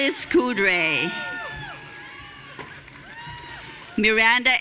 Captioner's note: audience cheering